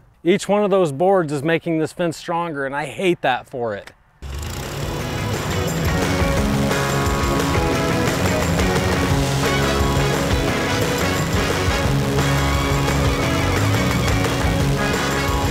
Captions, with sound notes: Each one of those boards is making this fence stronger and I hate that for it. (airboat motor roaring) (upbeat music)